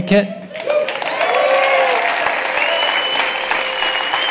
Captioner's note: audience cheering